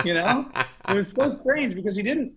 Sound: laughter

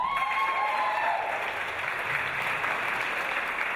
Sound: audience applause

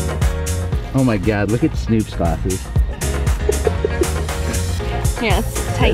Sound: laughs

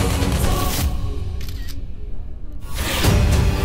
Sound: camera clicks

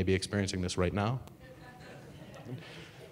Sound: audience laughing

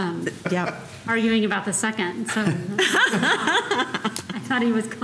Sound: laughter

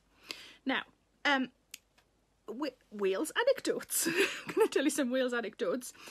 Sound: Sarah laughs

